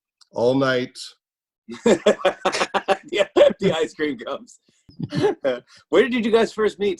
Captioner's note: laughter